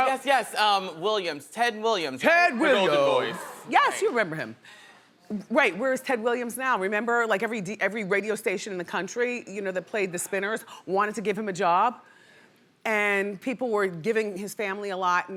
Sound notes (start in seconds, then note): none